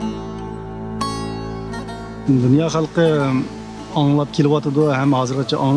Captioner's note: speaking foreign language